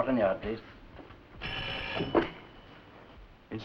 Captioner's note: phone rings